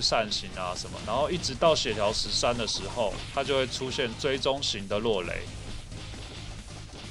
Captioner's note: lightning